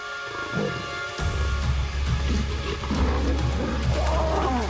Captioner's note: lions snarling